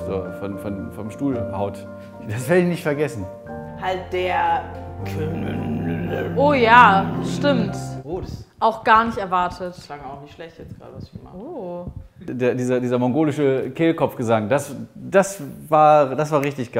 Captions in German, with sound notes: vom Stuhl haut. Das werd ich nicht vergessen. Halt der ... (Brummende Laute) Oh ja, stimmt. Auch gar nicht erwartet. Das klang auch nicht schlecht grade, was ich gemacht habe? - Oh. Dieser mongolische Kehlkopfgesang, das war richtig geil.